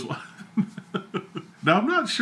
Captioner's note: chuckling